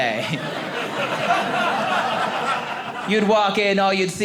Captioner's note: audience laughing